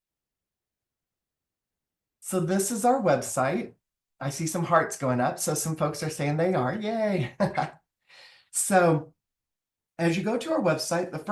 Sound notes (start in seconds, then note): 7.2 laughs